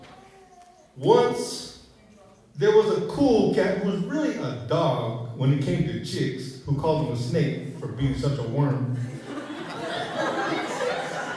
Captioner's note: laughter